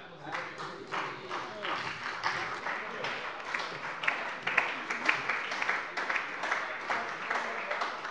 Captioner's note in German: Beifall bei der SPD und der LINKEN - Zurufe von der CDU